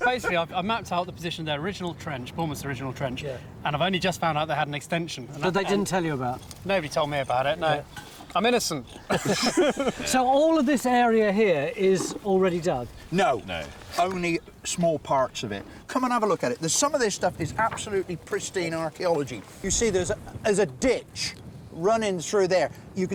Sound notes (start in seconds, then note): 8.8 men laughing